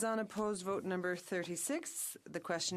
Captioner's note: speaking French